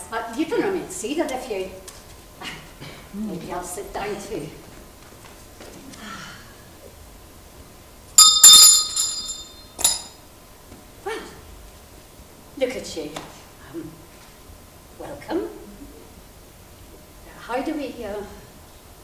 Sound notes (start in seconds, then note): 8.2 rings bell